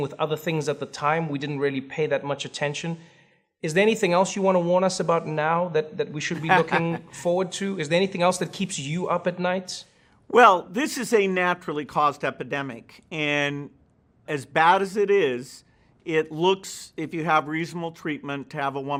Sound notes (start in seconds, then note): 6.3 laughs